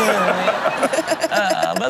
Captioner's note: everyone laughs